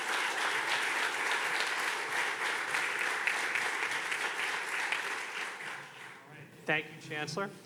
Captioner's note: audience continues clapping